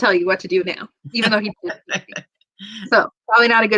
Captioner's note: laughter